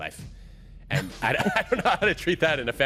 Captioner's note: laughing